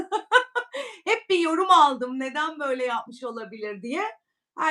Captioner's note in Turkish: kahkaha